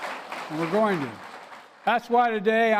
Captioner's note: applause